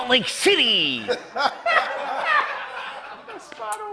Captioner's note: laughter